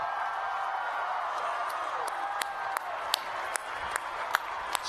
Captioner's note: applause